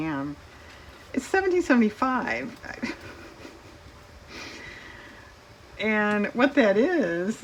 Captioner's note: laughs